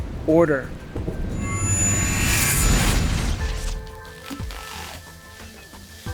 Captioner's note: dramatic air whooshing